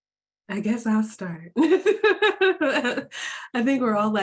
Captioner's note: laughing